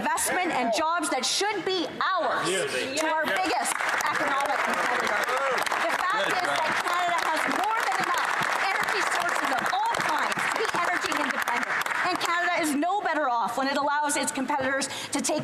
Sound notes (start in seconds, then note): 9.3 applause